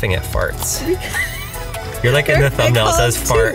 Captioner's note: laughs